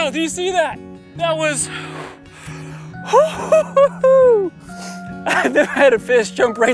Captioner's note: laughing